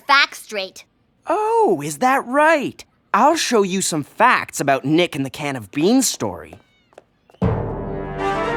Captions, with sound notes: OH, IS THAT RIGHT? I'LL SHOW YOU SOME FACTS ABOUT NICK AND THE CAN OF BEANS STORY. (DESCENDING FOOTSTEPS)